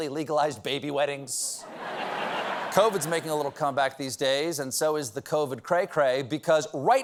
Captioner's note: laughter